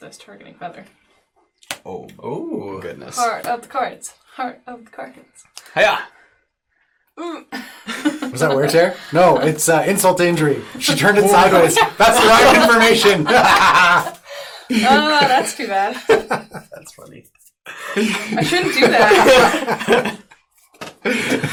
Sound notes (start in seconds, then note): 11.4 laughter